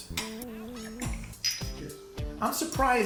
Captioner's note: shot glasses clink